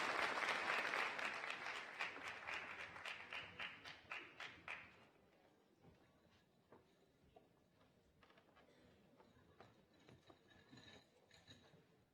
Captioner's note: applause